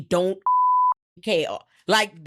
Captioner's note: beep